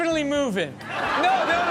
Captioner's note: audience laughs